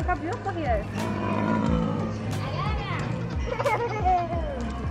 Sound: growling

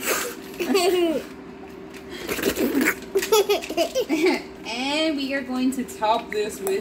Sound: laughing at daddy

